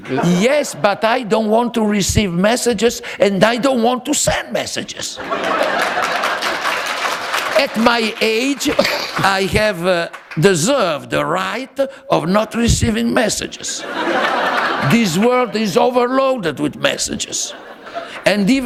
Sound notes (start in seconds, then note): 5.2 laughter